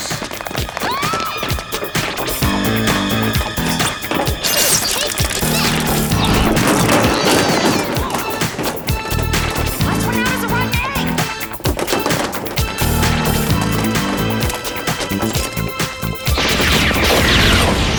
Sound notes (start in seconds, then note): 0.7 screaming